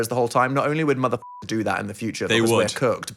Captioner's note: beep